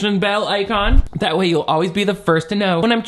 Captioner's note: transition swooshing